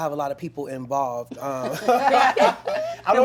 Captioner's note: laughter